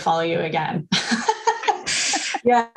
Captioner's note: laughter